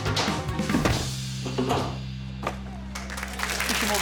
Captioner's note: upbeat music; iron thudding; audience clapping